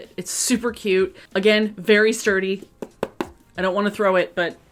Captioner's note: tapping